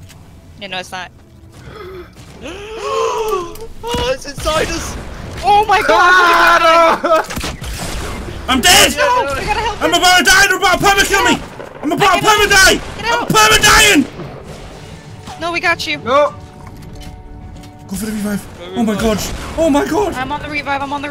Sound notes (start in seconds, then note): 1.6 gasps; 5.5 screams